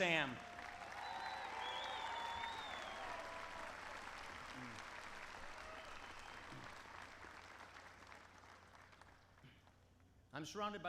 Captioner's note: applause